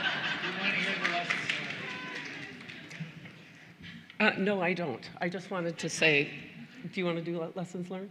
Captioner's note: laughter